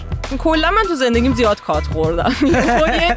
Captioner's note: laughs